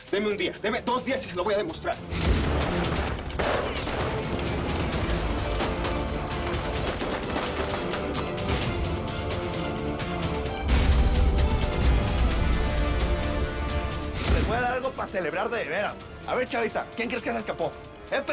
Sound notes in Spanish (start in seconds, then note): 2.2 Disparos; 10.9 Explosión